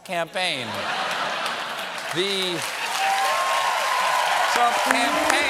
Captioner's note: applause; laughter; cheers